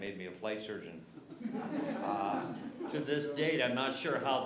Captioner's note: laughter